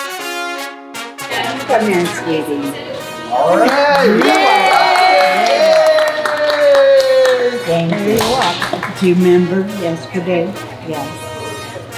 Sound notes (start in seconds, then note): 3.2 people cheer